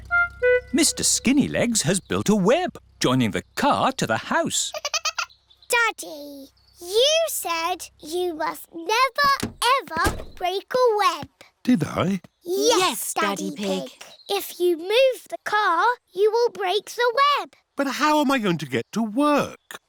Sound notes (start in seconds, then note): 4.7 giggling